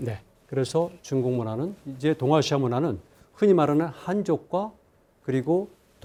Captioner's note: speaking in Korean